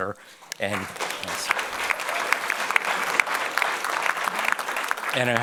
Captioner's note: audience applauding